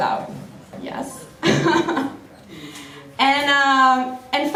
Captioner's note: laughs